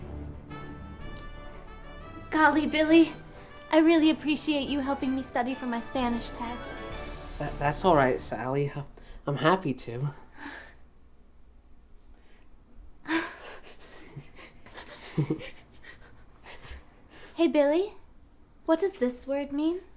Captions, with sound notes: - Golly, Billy, I really appreciate you helping me study for my Spanish test. - That's all right, Sally, I'm happy to. (both laughing) - Hey Billy? What does this word mean?